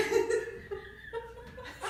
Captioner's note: laughing